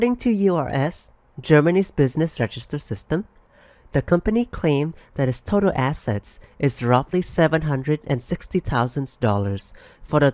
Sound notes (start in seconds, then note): none